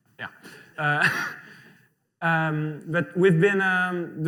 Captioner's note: laughter